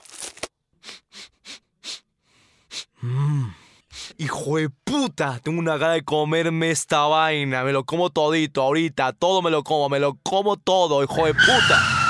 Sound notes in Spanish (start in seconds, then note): 0.8 sniff sniff sniff sniff